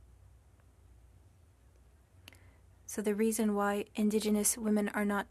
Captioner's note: speaking french